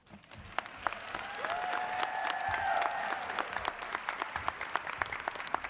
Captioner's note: audience cheers and applauds